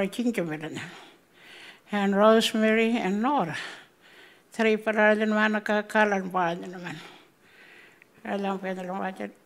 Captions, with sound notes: And Rosemary and Nora (speaking Anmatyerr)